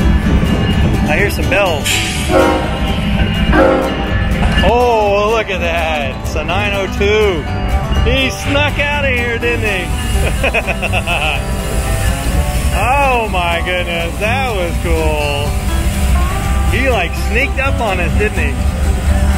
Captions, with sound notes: (train bell) - I hear some bells. (train horn) - Oh look at that! It's a 902. He snuck out of here didn't he! (laughing) - Oh my godness that was cool. He like sneaked up on it didn't he.